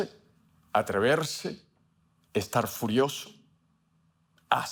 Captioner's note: Spanish speaking